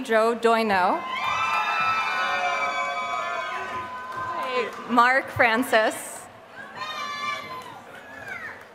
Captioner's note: applause